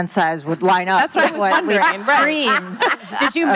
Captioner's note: laughing